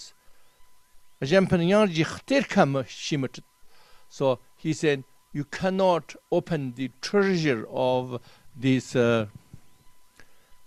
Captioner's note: tibetan